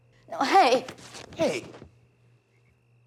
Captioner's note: fabric rips